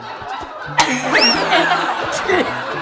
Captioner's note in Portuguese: risadas